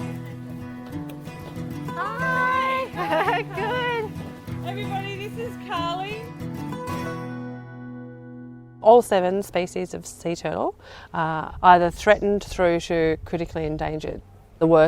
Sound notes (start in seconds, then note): 1.2 laughs